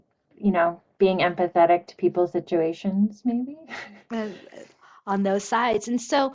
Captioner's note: chuckles